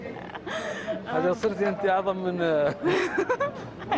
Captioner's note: laughs; laughs